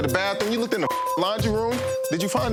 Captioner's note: beep